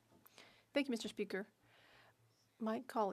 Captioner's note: speaking French